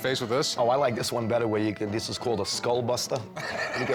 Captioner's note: laughs